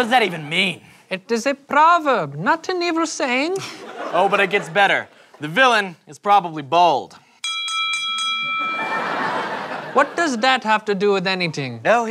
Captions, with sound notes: What does that even mean? It is a proverb, not an evil saying. Oh, but it gets better. The villain is probably bald. [four dings] What does that have to do with anything?